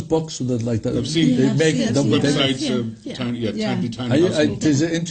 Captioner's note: overlapping chatter